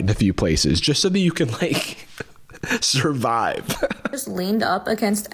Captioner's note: laughing